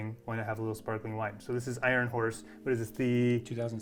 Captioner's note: none